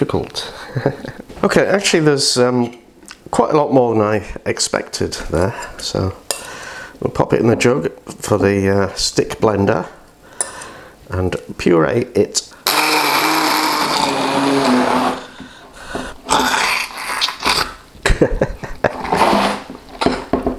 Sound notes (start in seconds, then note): 12.6 blender noise; 18.0 laughs